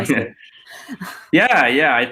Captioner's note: laughing